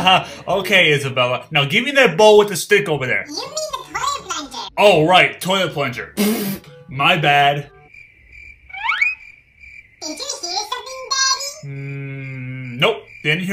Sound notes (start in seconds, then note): 7.9 crickets chirping